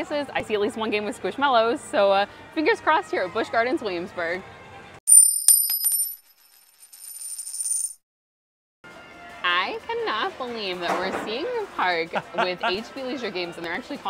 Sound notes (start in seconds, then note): 5.0 coin clinking; 12.2 laughing